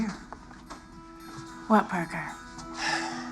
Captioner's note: sighs